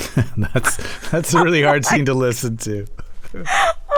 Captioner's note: laughter; laughter